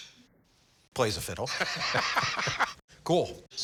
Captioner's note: laughs